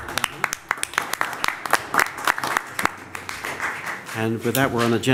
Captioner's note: applause